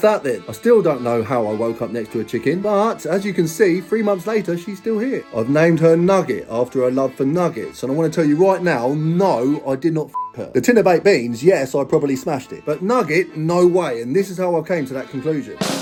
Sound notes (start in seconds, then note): 10.1 beeps